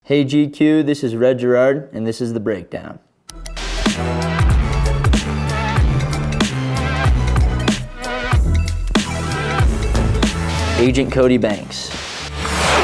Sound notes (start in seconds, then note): 3.3 upbeat tech music; 3.9 static buzzing; 11.8 rock music